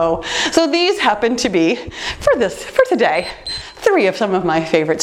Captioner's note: timer beeps